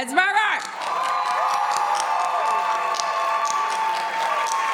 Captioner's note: audience applauds